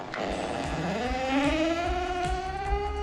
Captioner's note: upbeat music; door creaking